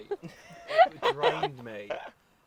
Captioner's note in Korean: 웃음